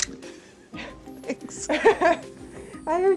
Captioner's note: laughs